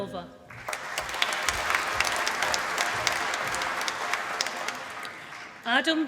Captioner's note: applause